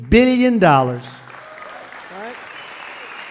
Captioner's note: applause